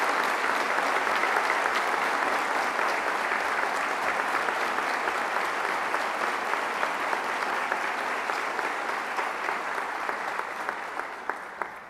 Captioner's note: applause